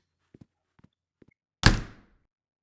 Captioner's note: abagail storms off-door slams!